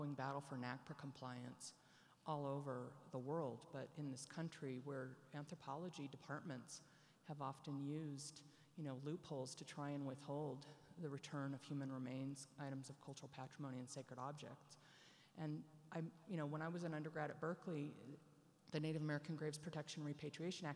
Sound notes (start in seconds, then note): none